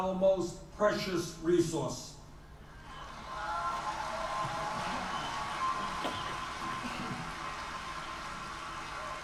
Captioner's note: applause and cheering on the film clip